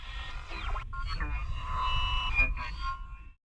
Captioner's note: radio scanning static